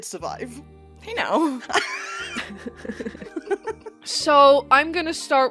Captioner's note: laughter